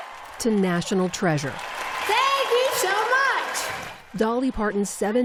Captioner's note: applause